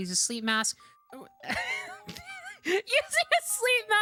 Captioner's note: confused Laughter